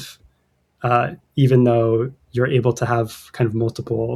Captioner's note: uh